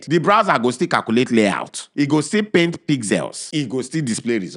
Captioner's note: none